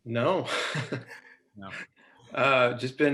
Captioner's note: laughing